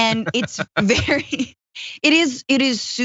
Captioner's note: laugh